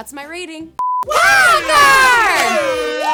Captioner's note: electronic beeping; air horns blaring